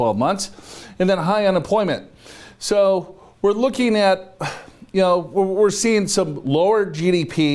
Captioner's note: sighs